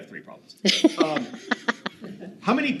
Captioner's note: laughing